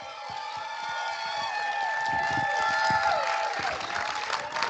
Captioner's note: cheering